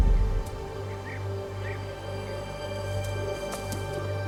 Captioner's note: birds chirping